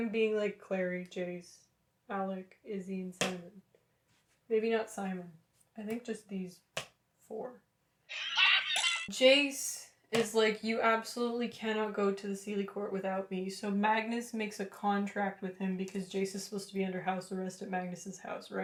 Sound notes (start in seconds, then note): 9.7 demonic rupaul laughter